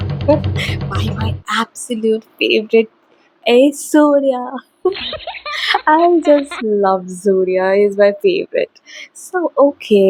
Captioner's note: hindi-dubbed accent